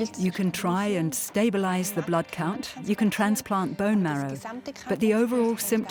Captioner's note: in German; dubbed in English